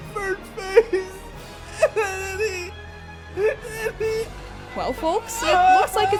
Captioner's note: continue to panic and stutter